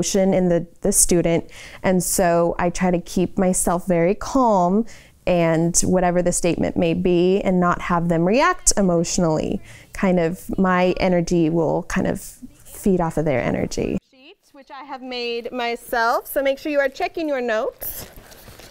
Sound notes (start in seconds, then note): none